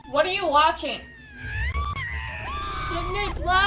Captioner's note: actor screaming